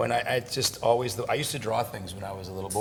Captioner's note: none